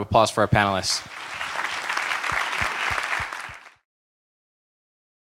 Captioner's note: applause